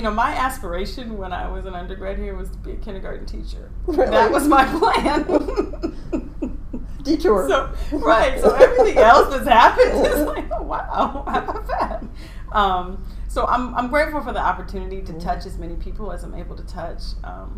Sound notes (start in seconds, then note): 7.7 laughing